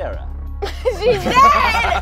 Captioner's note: laughing